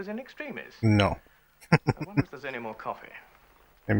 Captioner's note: chuckling